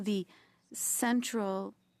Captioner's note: speaking French